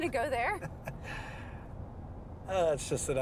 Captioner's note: Mark chuckles